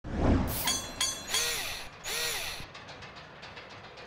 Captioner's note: mechanical SFX